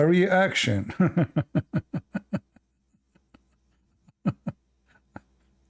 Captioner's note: Ketawa